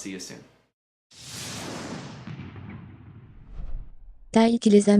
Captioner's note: jet flying